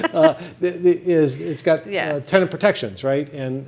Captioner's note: laughter